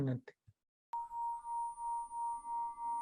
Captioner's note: Sonido del teléfono